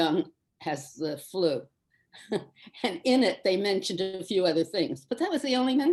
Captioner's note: chuckles